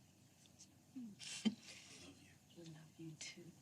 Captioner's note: chuckles softly